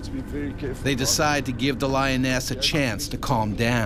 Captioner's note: voiceover